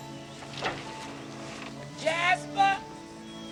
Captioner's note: door creaks